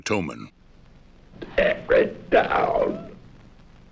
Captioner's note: Towman, hoarsely